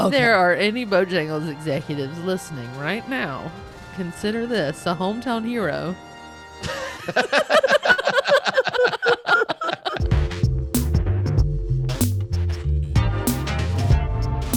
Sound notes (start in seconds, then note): 6.6 group laughs; 10.0 upbeat music